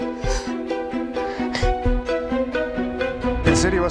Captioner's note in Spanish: Solloza